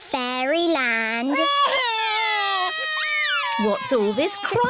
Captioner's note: both crying loudly